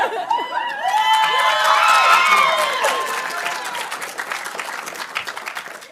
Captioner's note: audience cheering and applauding